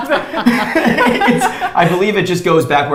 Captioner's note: all laughs